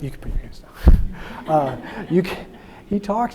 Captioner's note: audience laughing